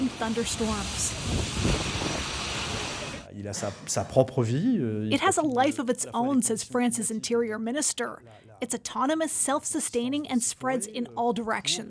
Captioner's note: speaking French